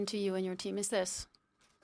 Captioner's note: speaking French